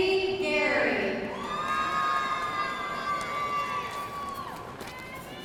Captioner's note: audience cheering